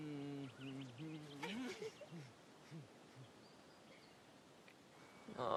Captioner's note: both laughing